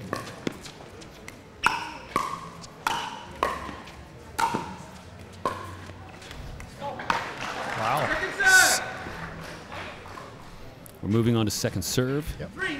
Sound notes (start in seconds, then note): 7.3 audience applauding